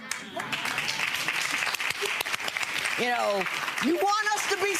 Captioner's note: audience clapping